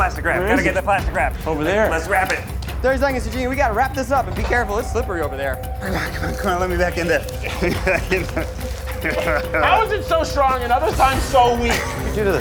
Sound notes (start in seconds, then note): 8.0 laughs